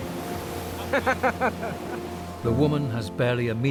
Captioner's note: laughs